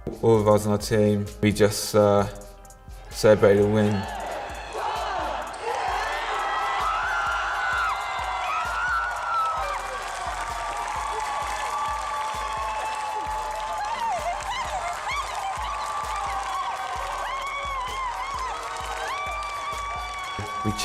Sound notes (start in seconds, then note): 4.7 cheering